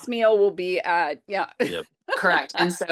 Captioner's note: laughs